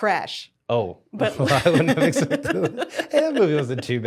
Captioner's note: laughing